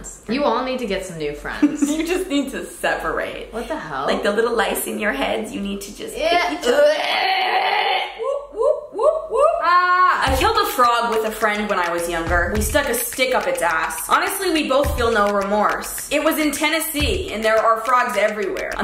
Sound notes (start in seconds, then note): 2.3 laughs; 6.4 groans; 9.6 screams